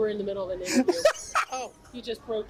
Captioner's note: laughs